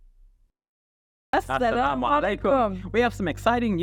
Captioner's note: both speaking Arabic